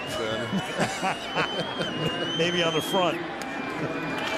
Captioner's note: laughs